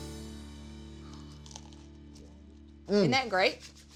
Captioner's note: moist crunch